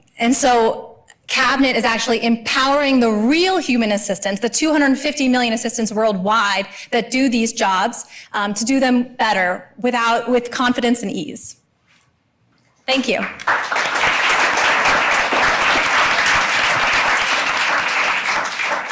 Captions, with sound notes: And so Cabinet is actually empowering the real human assistants, the 250 million assistants worldwide that do these jobs, to do them better with confidence and ease. Thank you. (audience applauding)